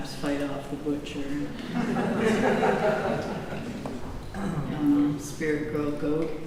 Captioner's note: laughter